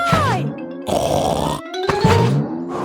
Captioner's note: snorts